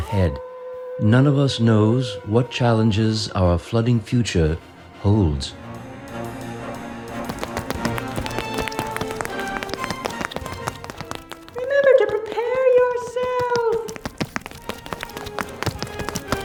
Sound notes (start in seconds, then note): 0.1 wolf howling; 6.6 ominous music; 8.8 footsteps pounding; 15.5 ominous music continues